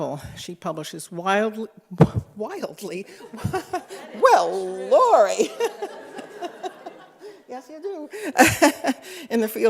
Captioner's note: laughter